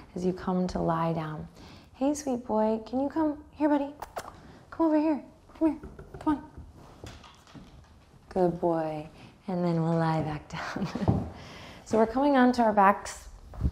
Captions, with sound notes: as you come to lie down. Hey, sweet boy, can you come? Here, buddy. (smacks lips) Come over here, come here, come on. Good boy. And then we'll lie back down. (chuckles) So we're coming onto our backs.